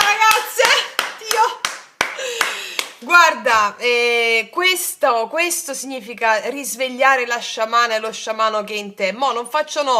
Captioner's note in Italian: applauso